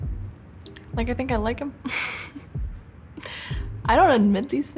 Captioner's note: laughs